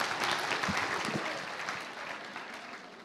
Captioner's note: applause